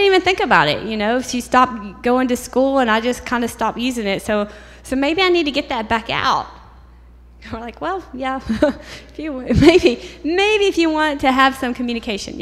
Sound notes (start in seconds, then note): 8.4 laughter